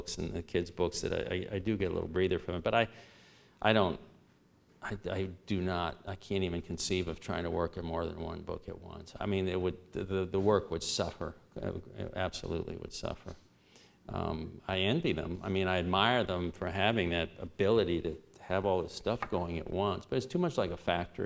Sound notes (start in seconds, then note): none